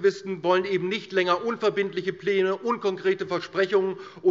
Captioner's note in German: none